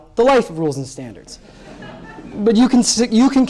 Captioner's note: laughter